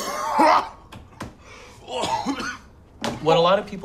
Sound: coughing

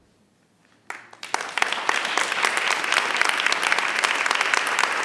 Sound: audience applauds

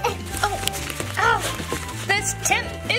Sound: both groaning

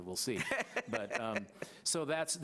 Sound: laughs

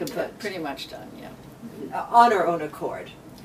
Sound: joking tone

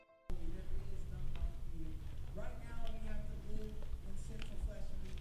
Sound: muffled background chatter

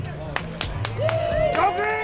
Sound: cheers and applause

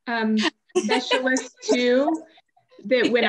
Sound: laughs

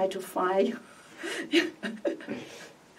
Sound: laughs

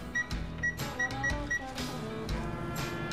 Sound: microwave beeps; quirky upbeat music

